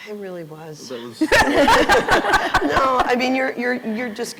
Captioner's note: laughter